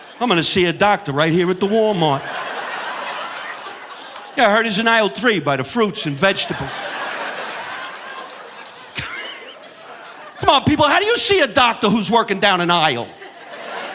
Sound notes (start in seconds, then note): 2.9 audience laughing; 7.3 audience laughing; 9.5 chuckles